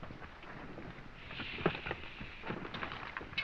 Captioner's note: shushing